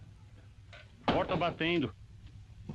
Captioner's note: door slamming